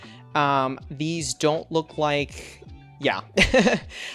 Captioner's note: laughs